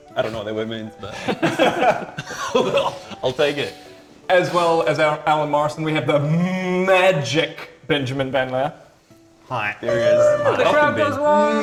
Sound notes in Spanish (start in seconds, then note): 1.1 Risas